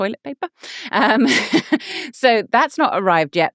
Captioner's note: laughing